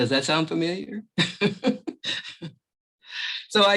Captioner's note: laughs